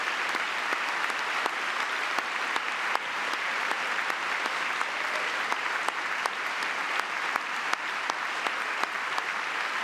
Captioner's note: cheering; applause